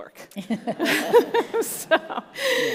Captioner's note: all laugh